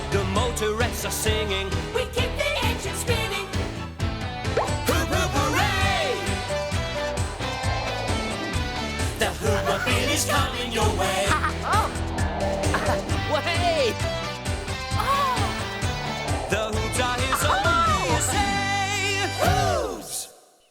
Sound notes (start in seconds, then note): 12.8 laughing; 18.6 exclaims